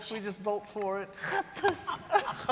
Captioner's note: hacking spit